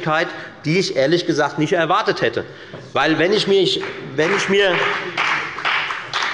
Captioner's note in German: Beifall bei der FDP